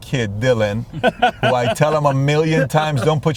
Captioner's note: laughing